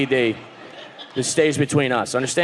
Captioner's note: audience laughing